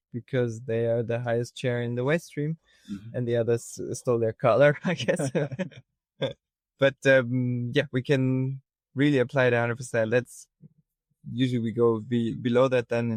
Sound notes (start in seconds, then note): 5.0 laughs